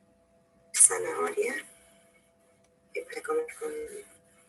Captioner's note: interference